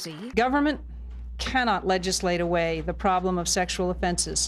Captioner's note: applause